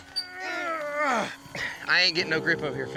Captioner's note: all grunting